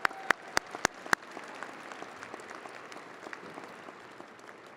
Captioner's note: audience applauding